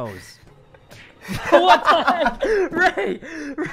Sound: laughs

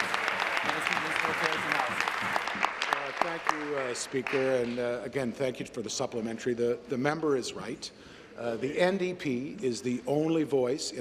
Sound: applause

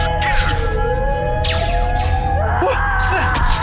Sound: SOUND: blaster fire; screams in agony as she’s hit

